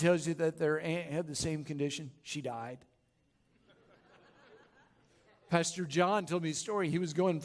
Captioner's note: laughter